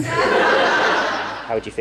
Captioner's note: audience Laughs